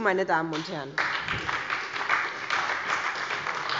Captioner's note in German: Beifall bei der SPD